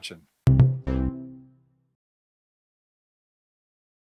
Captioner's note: outro boops